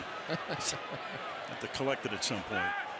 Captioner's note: laughs